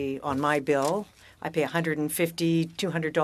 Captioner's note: speaking french